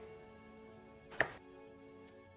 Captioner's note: delighted clap